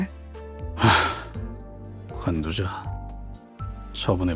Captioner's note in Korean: 헉 소리; 한숨